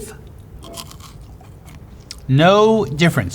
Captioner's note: crunching on fry